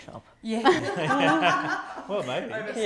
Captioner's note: laughing